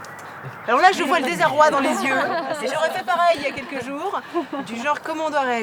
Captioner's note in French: rires